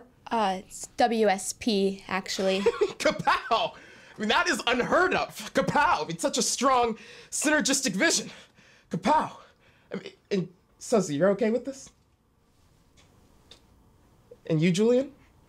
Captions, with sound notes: Uh, it's WSP, actually. [laughs] Kapow! That is unheard of! Kapow! It's such a strong, synergystic vision. Kapow. And Suzzy, you're okay with this? And you, Julian?